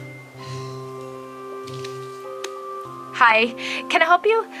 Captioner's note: sighing